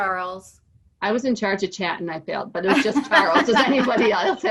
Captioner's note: laugh